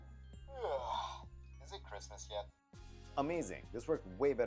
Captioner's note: sigh